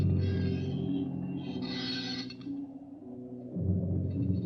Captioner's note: door creaking